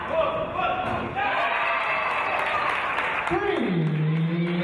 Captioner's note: cheers and applause